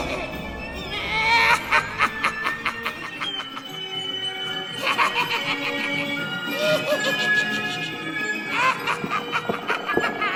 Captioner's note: threatening music; Mr. Punch laughs - distorted organ music